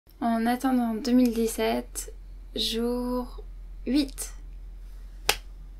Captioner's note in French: clap